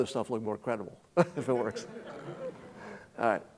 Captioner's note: chuckling